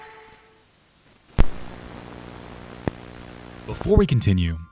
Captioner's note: static buzzing